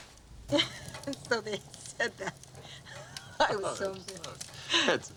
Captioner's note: laugh